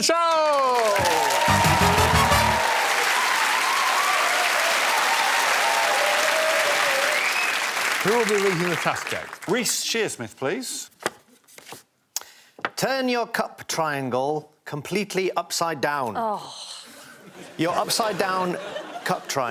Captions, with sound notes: to head to the stage for the final task of the show. [applause] Who will be reading the task out? Reece Shearsmith, please. -'Turn your cup triangle completely upside down'. -Oh.